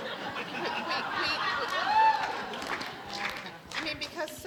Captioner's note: audience cheers